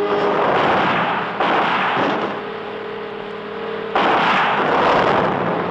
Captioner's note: gunshots firing